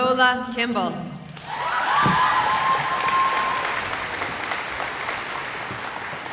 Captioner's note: cheering